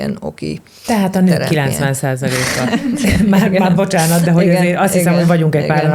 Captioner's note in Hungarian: nevetés